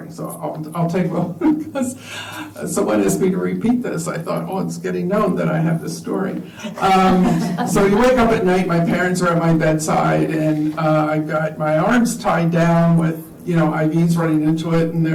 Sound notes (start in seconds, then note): 6.6 laughter